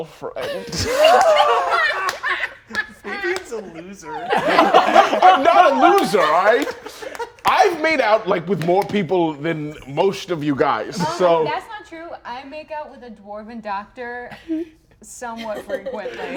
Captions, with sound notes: (all laughing) - Fabian's a loser. - I'm not a loser, all right? I've made out with more people than most of you guys, so. - That's not true. I make out with a dwarven doctor somewhat frequently.